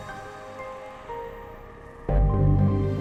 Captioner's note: none